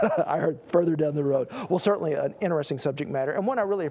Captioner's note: laugh